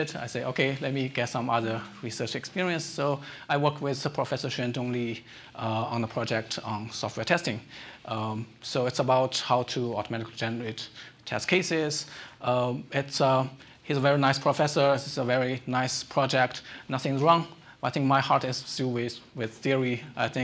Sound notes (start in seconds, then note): none